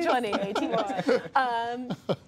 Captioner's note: laughter